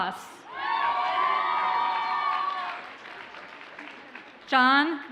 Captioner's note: audience cheers and applauds